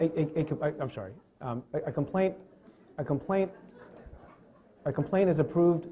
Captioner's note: stutters; chuckling